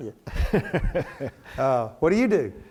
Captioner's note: laughs